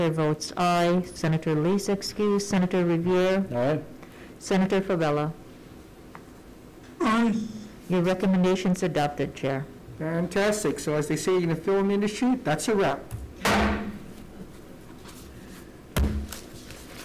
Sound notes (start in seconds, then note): 13.4 gavel bangs